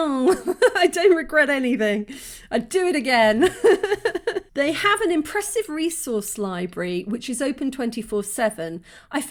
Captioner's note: laughing